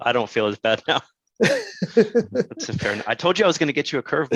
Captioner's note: chuckles